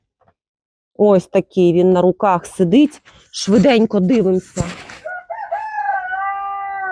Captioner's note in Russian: пение петуха